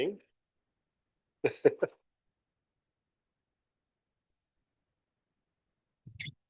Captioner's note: laughing